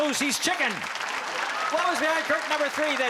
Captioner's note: applause